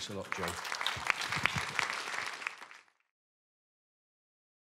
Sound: applause

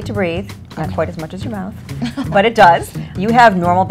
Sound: Madge laughs

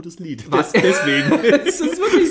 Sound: laughs

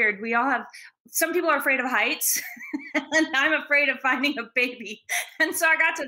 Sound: laughs

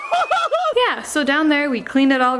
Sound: person laughing

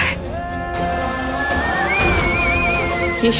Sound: emotional vocalising

